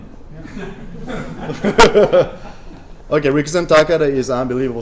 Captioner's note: laughter